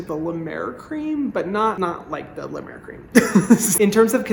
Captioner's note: laughing